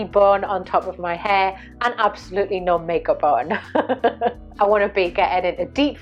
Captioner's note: laughs